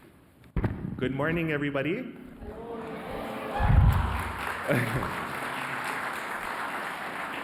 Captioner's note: audience replies and applauds